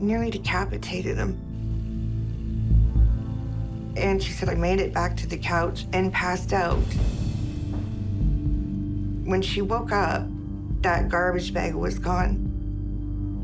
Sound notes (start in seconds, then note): none